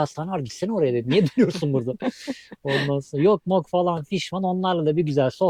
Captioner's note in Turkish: kahkaha